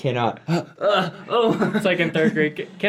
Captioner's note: groans